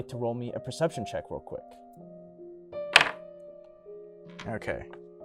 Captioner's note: dice being rolled